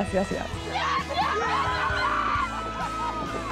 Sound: screaming

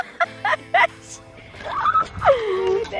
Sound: laughing

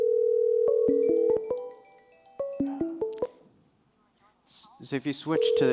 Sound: phone rings; notification chime

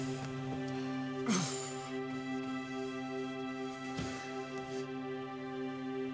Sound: engine humming; dramatic music

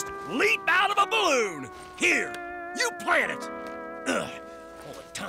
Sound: groaning

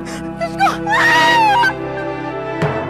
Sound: screams

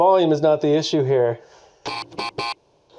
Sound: buzzer buzzes

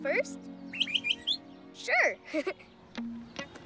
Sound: chirps; chuckles

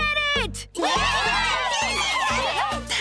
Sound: all cheering

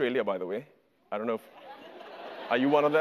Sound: audience laughter

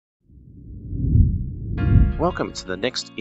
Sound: air swooshing

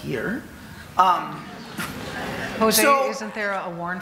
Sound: audience laughing

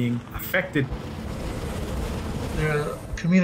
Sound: wind blowing

